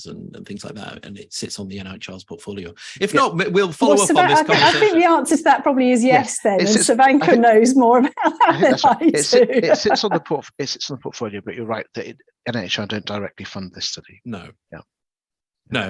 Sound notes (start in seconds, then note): 7.9 laughs